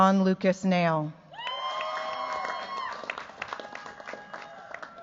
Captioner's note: cheers, applause